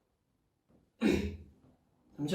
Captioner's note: clears throat